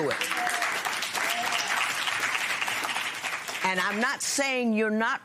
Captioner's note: applause